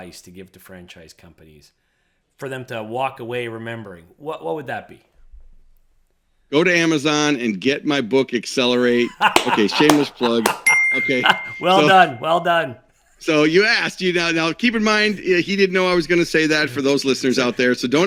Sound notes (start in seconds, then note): 10.6 ding sound effect